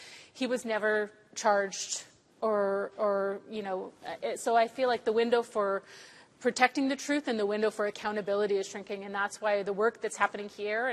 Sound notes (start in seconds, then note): none